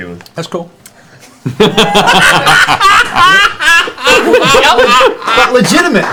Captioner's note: laughter